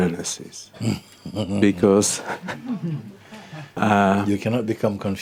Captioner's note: Mooji chuckles